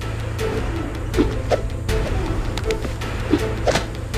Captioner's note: air whipping